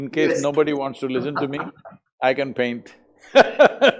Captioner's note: laughs; Kiran laughs